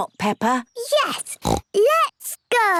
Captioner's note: snorts